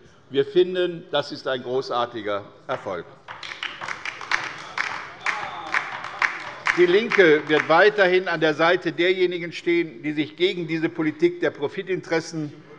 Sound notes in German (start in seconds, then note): 3.2 Beifall bei der LINKEN